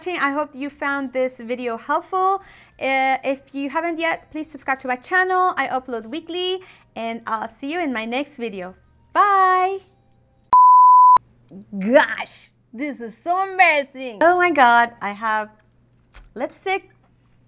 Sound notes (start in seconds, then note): 10.6 high-pitch tone; 15.6 tongue smacking